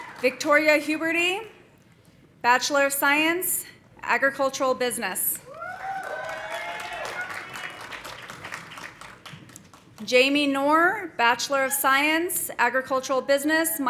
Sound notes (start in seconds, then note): 5.5 audience cheering; 5.6 audience applauding